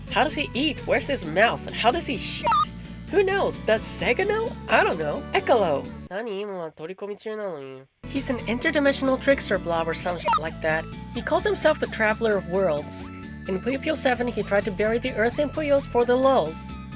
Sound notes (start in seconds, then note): 6.2 speaking foreign language